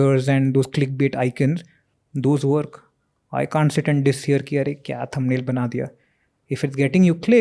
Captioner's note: speaks in Hindi